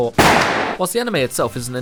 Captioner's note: gunshot